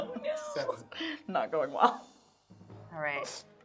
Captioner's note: laughing